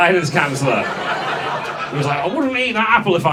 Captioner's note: audience laughs